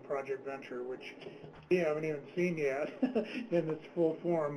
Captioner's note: laughs